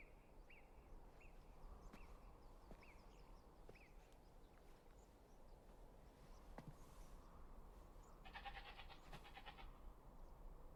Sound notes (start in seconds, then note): 0.2 birds chirping; 8.3 goat bleating